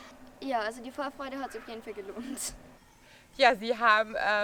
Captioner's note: laughs